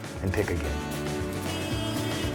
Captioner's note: car honking